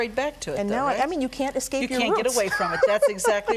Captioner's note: laughing